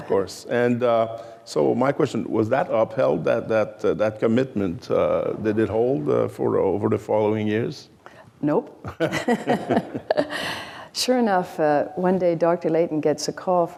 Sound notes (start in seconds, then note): 8.8 laughter